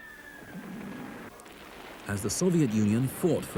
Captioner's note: shells boom